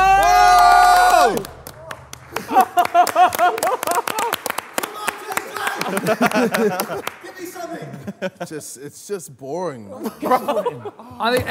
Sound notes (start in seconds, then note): 0.0 cheering; 2.8 clapping